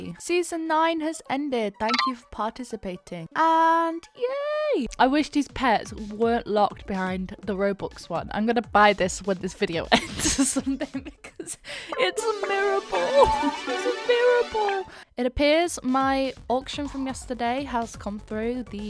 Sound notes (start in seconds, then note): 10.2 laughs